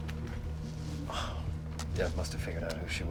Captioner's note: sighs